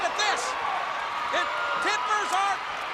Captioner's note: crowd cheering